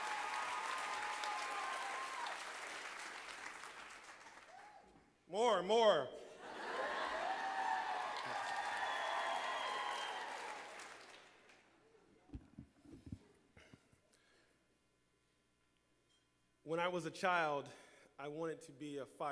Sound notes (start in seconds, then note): 9.4 laughter and applause